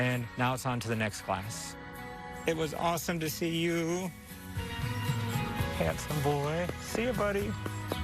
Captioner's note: none